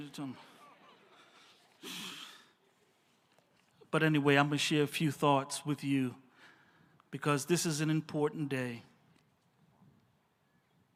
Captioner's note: laughs